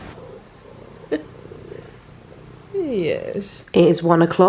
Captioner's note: Ginger purring